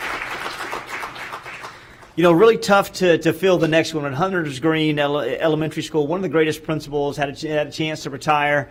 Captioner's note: applause